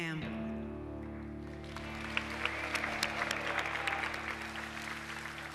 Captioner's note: applauses